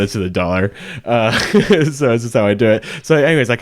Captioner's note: laughs